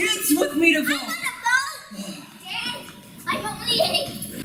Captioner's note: children shouting